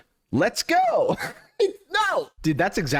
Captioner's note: laughs